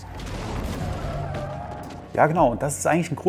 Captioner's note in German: quietschende Reifen